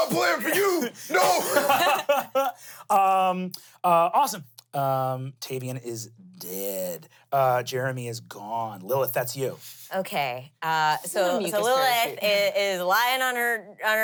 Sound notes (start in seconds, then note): 1.9 laughs